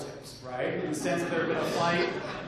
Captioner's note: laughter